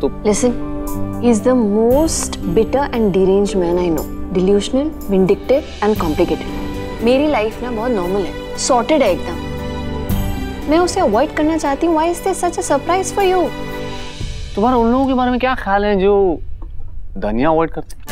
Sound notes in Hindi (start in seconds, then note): none